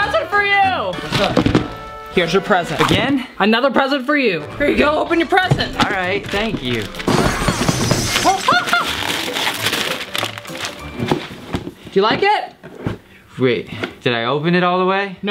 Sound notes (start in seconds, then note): 7.5 glass shattering